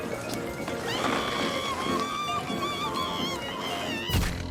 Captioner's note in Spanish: Flaky grita